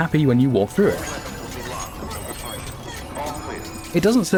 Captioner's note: laughing